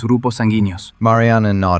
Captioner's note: spansih